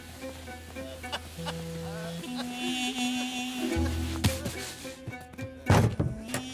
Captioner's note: Iqbal wailing